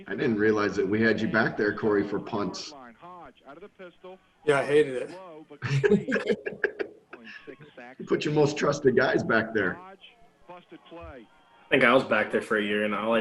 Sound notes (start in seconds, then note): 5.6 all laugh